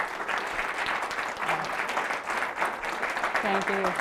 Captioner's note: applause